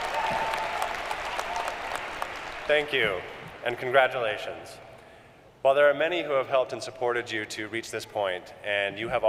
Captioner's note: applause